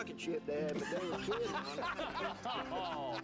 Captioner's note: men laughing